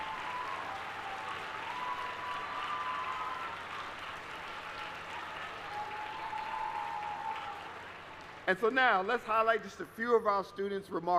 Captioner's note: applause